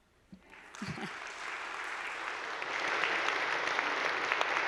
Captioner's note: audience applauding